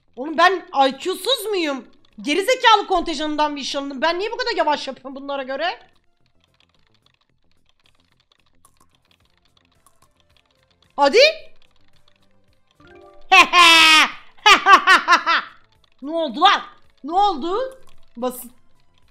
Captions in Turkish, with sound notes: Olum ben IQ'suz muyum? Geri zekalı kontenjanından mı işe alındım? Ben niye bu kadar yavaş yapıyorum bunlara göre? Hadi! Hehee (kahkaha) Noldu lan., noldu? Basit.